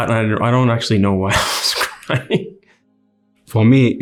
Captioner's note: interviewee laughs